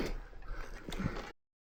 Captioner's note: laughing